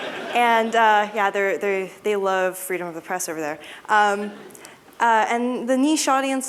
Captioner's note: laughter